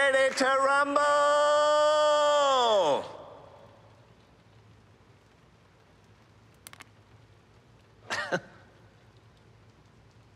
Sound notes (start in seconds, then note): 3.4 silence; 8.1 awkward chuckle